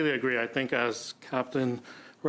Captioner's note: speaking French